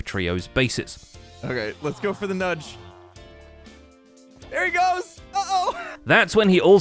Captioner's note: laughs